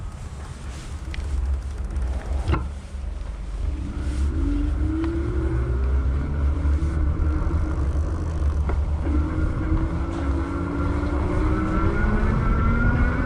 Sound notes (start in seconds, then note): 0.1 chain zipping